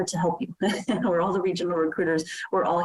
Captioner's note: chuckles